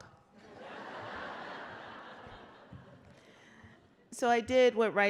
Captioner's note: laughter